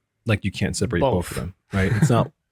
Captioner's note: laughs